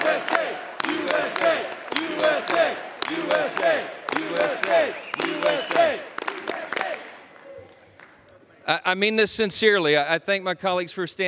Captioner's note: crowd chants "u.s.a."